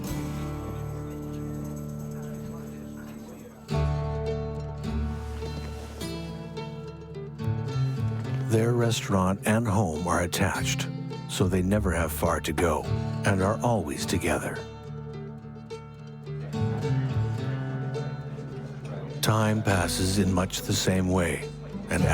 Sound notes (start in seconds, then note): 3.8 gentle music; 16.6 people chatting; 17.5 gentle music